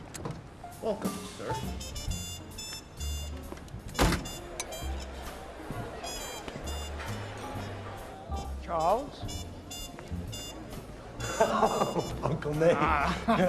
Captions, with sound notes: Welcome, sir. (ALL CHATTERING) Charles? (LAUGHING DELIGHTEDLY) Uncle Nate.